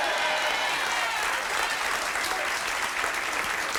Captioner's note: audience cheers